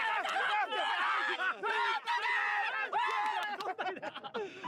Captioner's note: all yelling